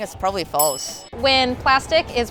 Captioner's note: ding